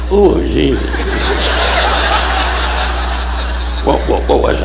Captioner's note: audience laughing